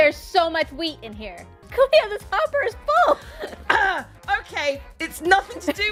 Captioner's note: clears throat